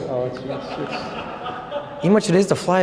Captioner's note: laughter